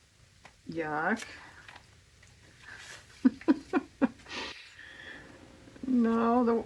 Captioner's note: laughs